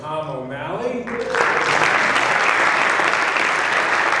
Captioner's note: applause